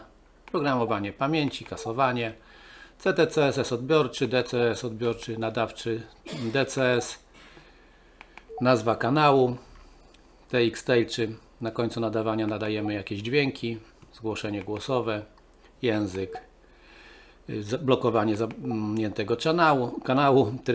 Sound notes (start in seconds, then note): 7.2 transmitting